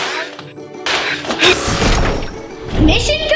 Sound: zapping

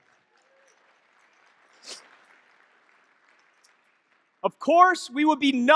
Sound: audience clapping and cheering

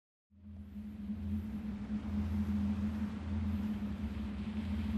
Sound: wind

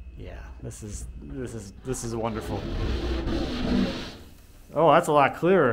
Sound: plastic pulling off window

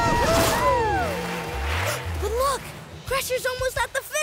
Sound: AJ gasping

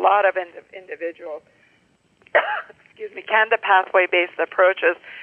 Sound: coughs

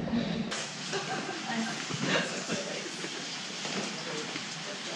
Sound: sound of rain falling

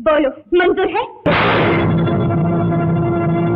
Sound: gunshot

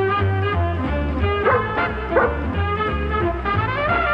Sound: dog barks

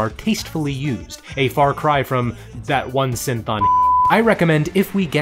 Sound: beeps

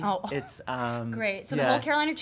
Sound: laughing

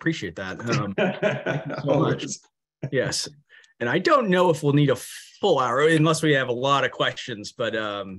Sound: laughter

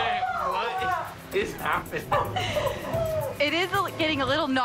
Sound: laughter

